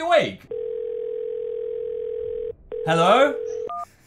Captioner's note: phone ringing